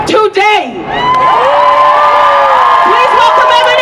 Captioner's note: cheering